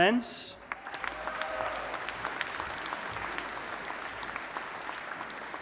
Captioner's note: audience applauding